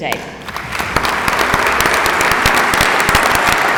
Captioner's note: applauding